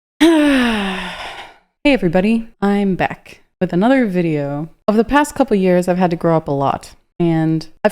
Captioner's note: sigh